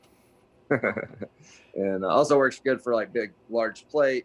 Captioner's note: laughs